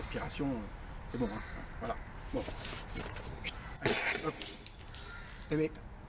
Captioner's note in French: bruit de verre brisé